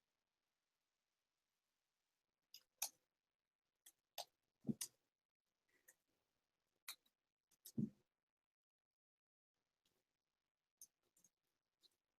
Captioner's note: silence